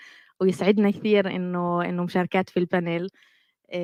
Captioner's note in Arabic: لغة أجنبية